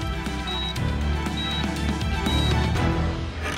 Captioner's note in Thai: เสียงเครื่องวัดสัญญาณชีพ